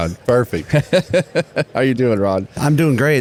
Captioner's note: laughs